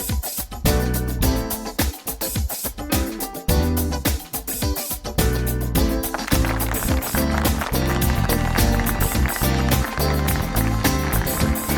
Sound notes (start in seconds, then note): 0.1 uplifting funk music continues; 6.0 audience applauds